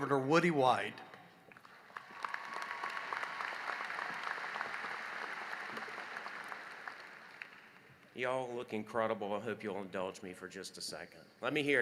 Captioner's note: applause